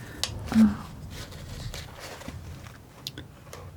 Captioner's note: scratching